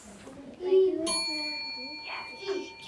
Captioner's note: bell rings